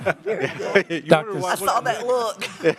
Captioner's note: laughter